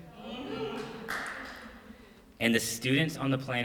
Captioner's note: crowd murmuring